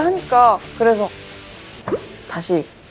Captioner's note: thump